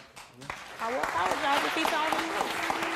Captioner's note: audience clapping